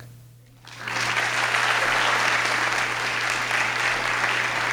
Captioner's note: audience claps